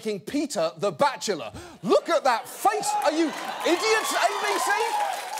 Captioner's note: audience cheers, applauding